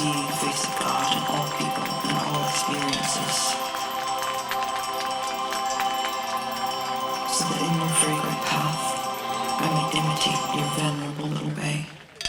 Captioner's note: applause